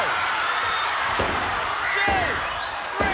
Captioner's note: hand thudding